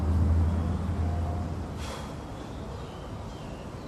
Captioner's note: deep exhale